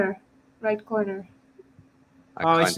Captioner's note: chatter